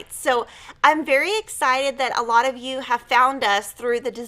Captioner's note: none